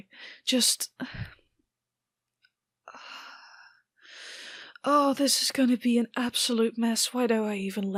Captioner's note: sighs